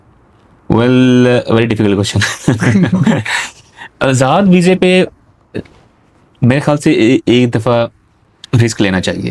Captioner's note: laughs